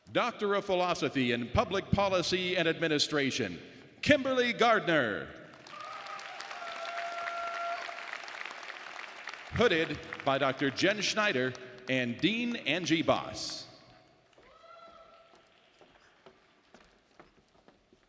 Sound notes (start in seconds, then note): 5.5 audience applauding